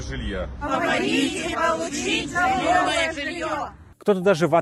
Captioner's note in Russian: хором